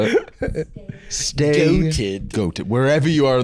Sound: over-enunciating

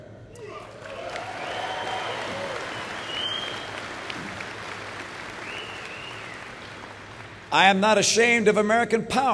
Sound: applause

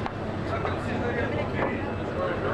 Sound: chatter

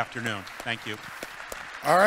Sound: audience clapping

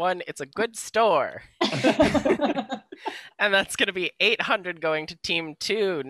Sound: laughter

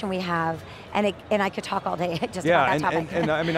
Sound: laughs

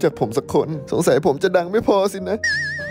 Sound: cries

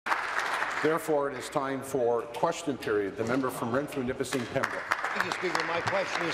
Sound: applause

